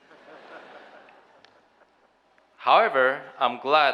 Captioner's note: audience chuckling